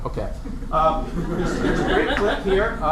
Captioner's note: laughter